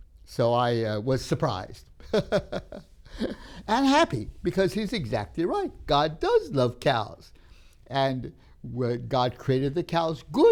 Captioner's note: laughs